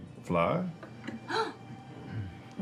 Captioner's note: gasp